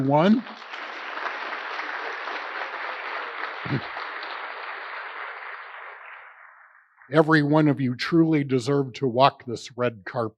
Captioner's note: applause